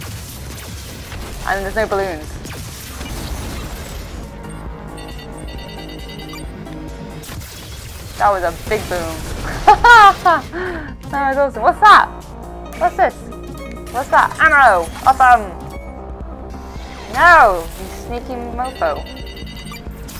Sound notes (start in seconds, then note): 0.0 lasers firing; 4.3 beeping; 7.1 shot exploding; 7.2 lasers firing; 9.4 laughing; 15.6 beeping; 19.0 exploding; 19.9 beeping